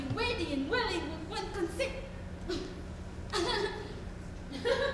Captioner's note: chuckles